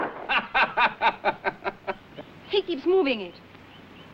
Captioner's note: Tom laughing